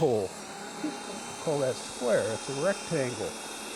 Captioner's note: drill whirring